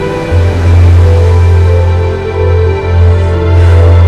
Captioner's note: waves crashing